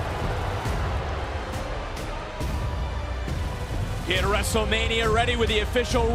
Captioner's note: crowd boos